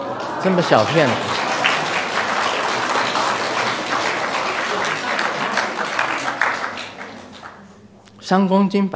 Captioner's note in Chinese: 眾鼓掌